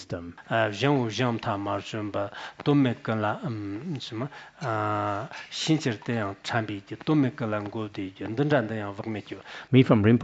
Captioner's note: citing scripture in Tibetan